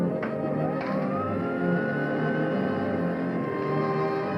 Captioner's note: machine whirring